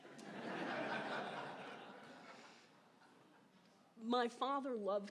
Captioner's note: laughter